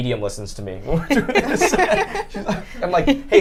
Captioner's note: group laughs